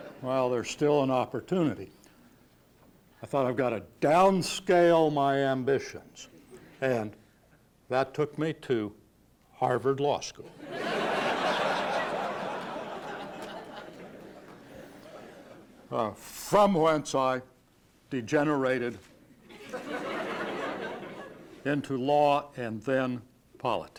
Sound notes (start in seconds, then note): 0.0 laughter; 10.5 laughter